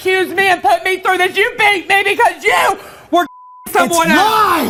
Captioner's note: beep